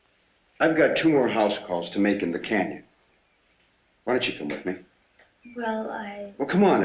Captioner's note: none